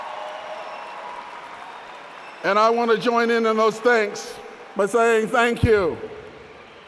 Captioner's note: applause